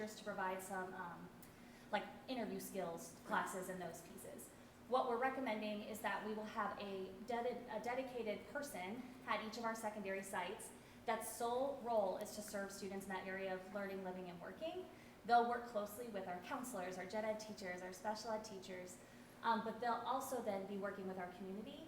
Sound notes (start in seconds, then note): none